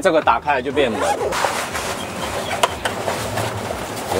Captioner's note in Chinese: 開門聲